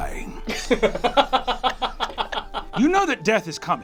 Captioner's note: laughs